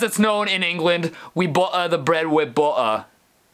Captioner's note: in horrible English accent